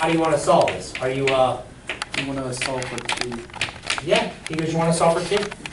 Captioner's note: voiceover